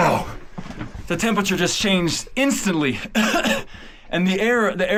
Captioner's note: coughs